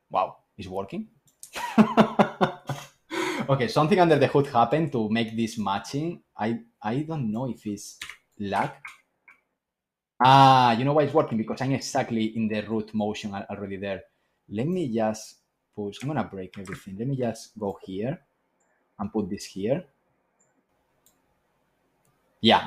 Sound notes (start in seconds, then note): 1.5 laughs